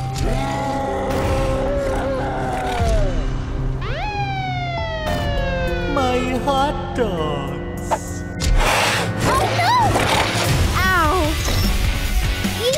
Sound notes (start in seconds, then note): 0.2 gentle music; 0.2 gorilla roaring; 3.7 siren wailing; 11.3 rock music